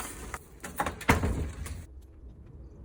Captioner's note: door closing